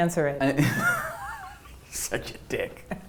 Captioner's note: laughing